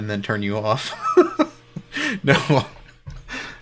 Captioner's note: laughing